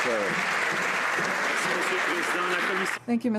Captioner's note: some Applause